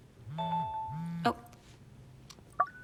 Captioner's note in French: le téléphone vibre